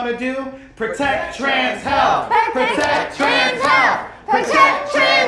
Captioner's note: chanting "Protect Trans Health"